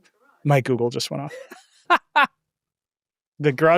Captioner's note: laughing